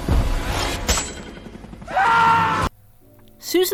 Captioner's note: perfectly cut scream